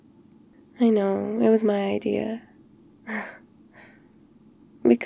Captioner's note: laughs